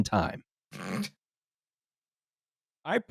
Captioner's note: snorts